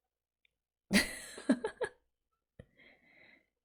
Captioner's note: laughs